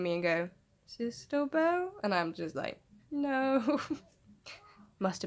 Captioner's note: chuckles